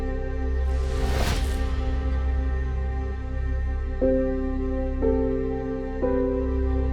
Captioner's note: dramatic music continues; logo whooshes